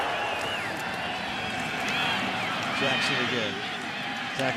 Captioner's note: cheering